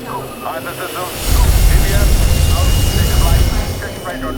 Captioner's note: launching sound